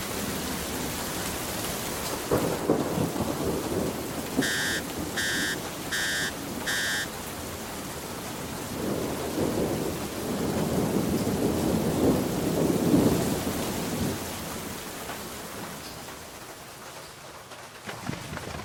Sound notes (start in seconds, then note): 2.0 thunder rumbling; 4.5 cell phone beeping